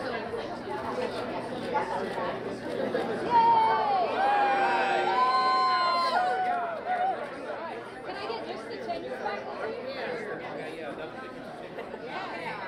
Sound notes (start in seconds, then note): 3.3 cheering